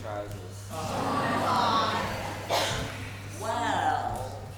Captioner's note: audience groans